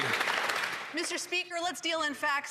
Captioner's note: applause